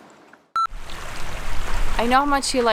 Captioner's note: beep